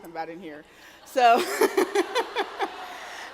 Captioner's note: laughs